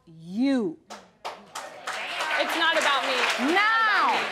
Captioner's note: audience applauding